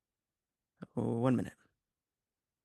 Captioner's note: speaking in French